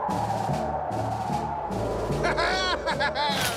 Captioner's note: laughing